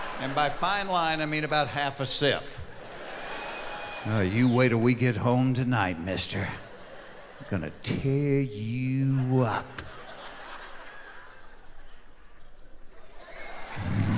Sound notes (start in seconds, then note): 2.0 laughing; 11.4 laughing